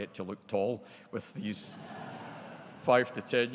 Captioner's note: audience laughing